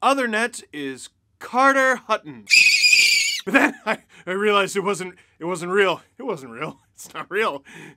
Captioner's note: screaming